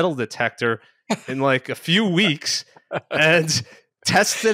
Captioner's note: chuckles